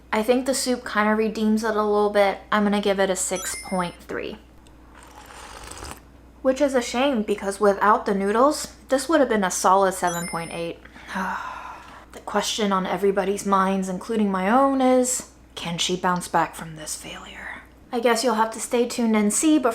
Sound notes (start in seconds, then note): 11.0 sighs